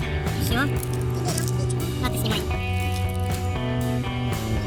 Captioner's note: they say in a funny voice